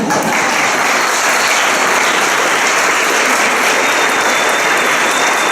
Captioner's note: applause